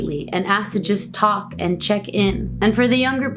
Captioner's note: foreign language